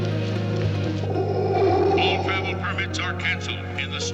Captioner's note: man Over Speaker